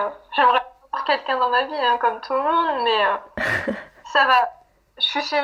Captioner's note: laughs